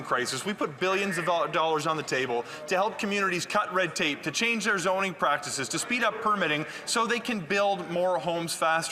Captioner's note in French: voix de l'interprète